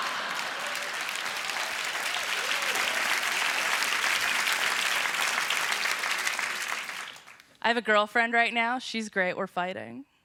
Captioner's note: applause